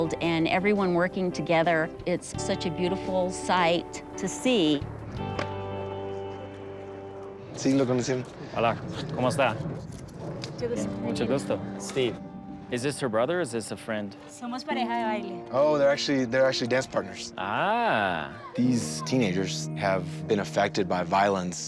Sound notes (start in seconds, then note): 7.3 speaks Spanish